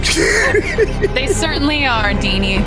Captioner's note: chuckling